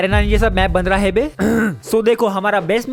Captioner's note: clear throat